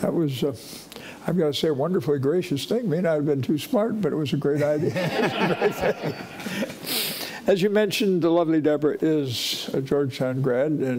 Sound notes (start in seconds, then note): 4.9 audience laughing